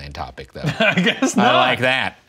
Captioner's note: laughing